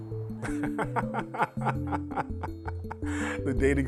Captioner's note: laughing loudly